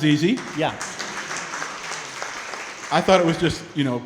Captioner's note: crowd clapping